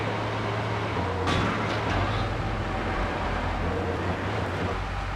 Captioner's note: car engine roaring